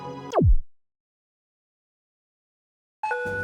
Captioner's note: silence